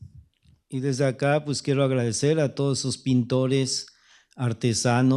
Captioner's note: speaking spanish